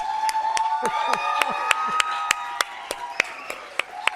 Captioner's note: cheers and applause continue